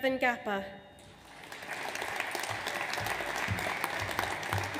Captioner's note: audience applauds